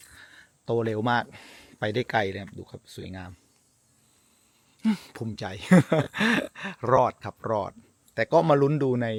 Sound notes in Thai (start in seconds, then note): 5.7 เสียงหัวเราะ